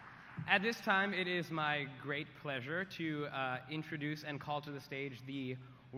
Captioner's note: applause